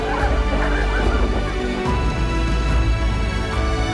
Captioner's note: laughter; slow dramatic music